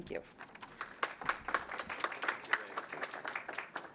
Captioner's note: applause